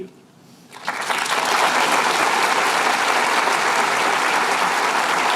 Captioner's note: applause